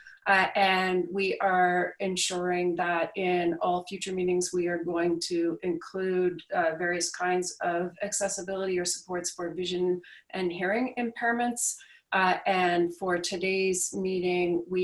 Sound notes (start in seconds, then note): none